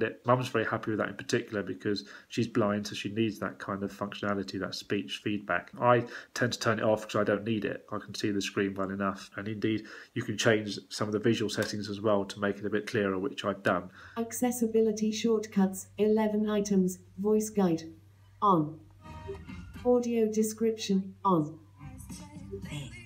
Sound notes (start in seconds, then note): 14.1 female speech synthesiser voice